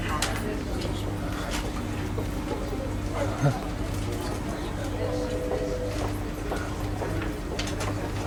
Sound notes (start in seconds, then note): 0.6 people chattering